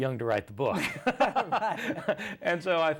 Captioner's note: both laugh